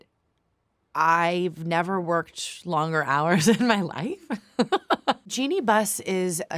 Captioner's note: laughs